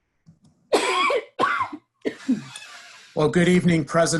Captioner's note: woman coughing